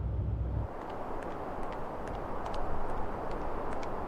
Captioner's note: footsteps tapping